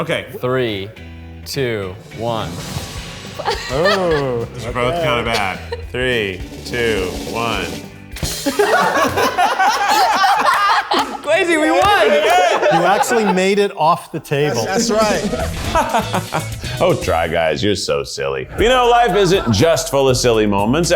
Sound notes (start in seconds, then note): 3.4 laughs; 8.3 group laughing